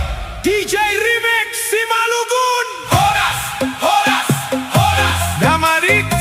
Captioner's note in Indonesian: berteriak